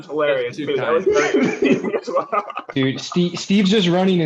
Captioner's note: laughter